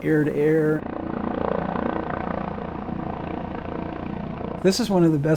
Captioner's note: helicopter whirring